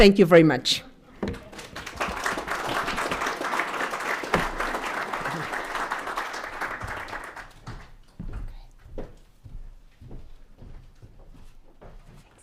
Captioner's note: applause